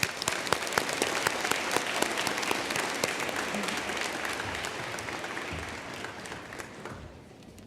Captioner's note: applause